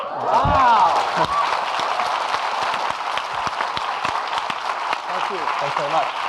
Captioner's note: audience applauding and cheering